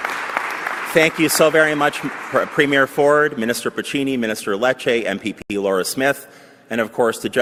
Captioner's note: applause